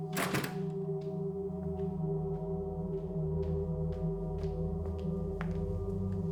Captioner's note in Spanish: sonido al cerrar la puerta